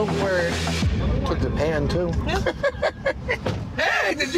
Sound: laughs

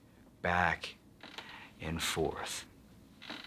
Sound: rocking chair creaking

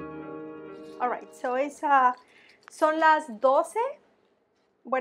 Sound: speaking spanish

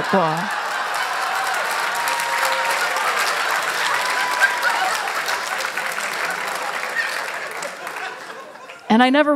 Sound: applause; laughter

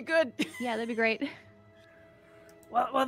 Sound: laughs

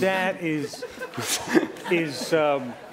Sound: laughter

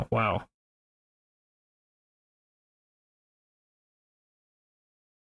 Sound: silence

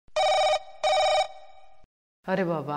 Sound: telephone rings

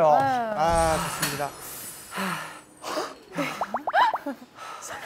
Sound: their breathing gets heavier as the game goes on

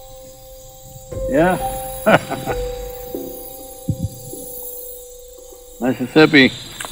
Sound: laughs

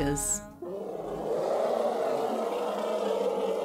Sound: loud growling

